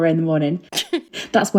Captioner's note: laughing